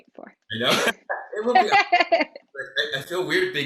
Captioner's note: both laughing